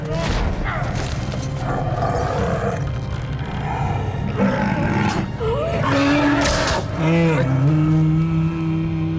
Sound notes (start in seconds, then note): 5.8 roars